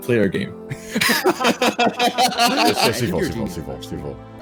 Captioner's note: laughing